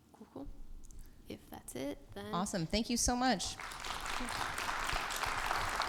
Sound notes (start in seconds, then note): 3.5 audience applauds